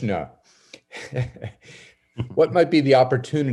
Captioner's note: laughing